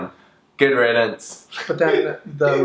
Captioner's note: laughs